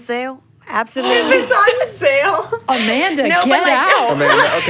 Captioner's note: laughs